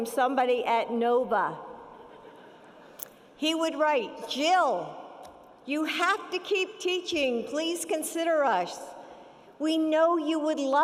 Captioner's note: laughter